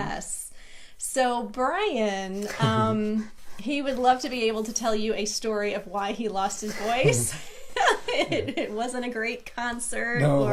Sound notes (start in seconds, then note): 2.6 laughs; 6.9 both laughing